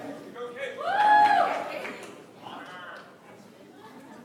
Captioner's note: audience applauds